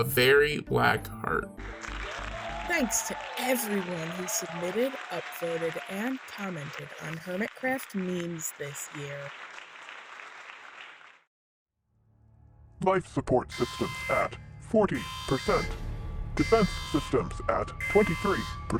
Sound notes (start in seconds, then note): 11.3 sirens